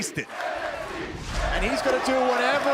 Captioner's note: crowd cheering